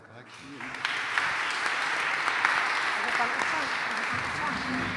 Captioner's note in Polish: oklaski